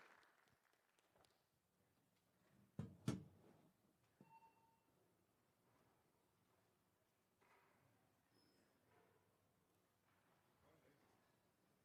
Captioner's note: applause